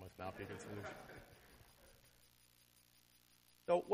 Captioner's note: laughter